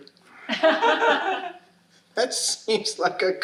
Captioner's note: audience laughing